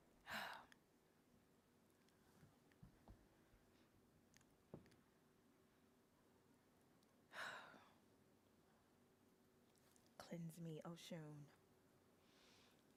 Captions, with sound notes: (sighs) Cleanse me, Oshun.